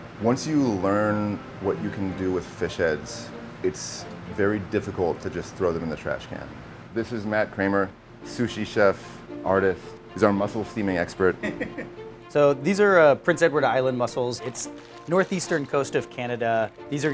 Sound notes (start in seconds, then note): 11.4 laughing